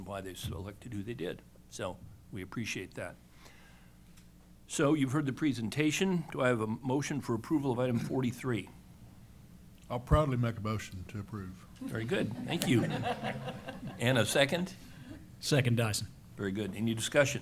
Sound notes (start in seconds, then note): 11.8 laughter